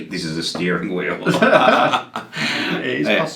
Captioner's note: both laughing loudly